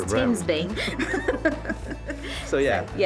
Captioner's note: both laughing